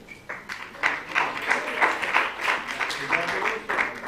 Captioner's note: applause